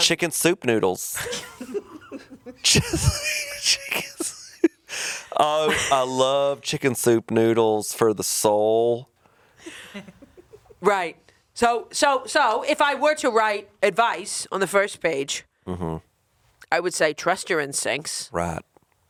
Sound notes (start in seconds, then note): 1.2 chuckling; 9.6 chuckling